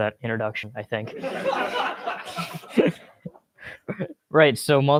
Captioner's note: laughter